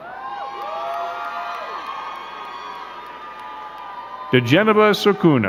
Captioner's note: crowd cheering and clapping